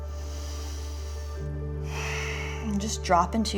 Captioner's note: deep breathing